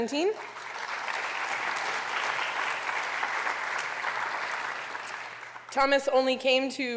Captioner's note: applause